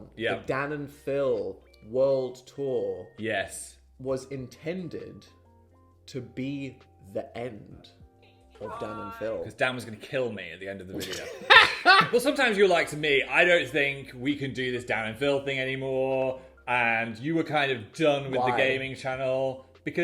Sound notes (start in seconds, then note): 11.0 laughing